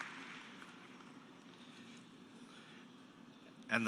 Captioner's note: cheers and applause